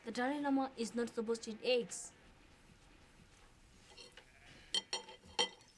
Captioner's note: dining Ware Clanking